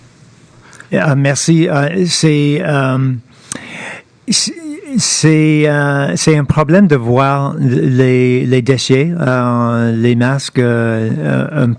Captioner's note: speaking French